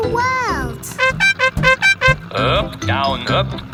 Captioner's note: horn beeping